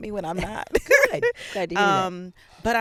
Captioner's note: laughing